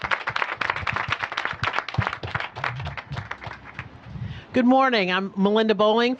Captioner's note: applause